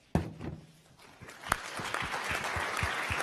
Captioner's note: audience applauds